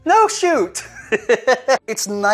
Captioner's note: laughs